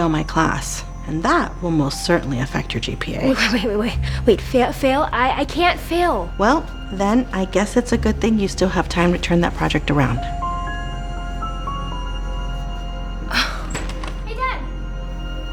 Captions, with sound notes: My class. And that will most certainly affect your GPA. Wait, wait, wait, wait, wait. Fa-Fail? I-I can’t fail! Well, then I guess it's a good thing you still have time to turn that project around. - (Sighs) Hey, Dad! - (Door opens)